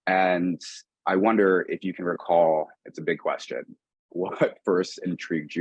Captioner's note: chuckling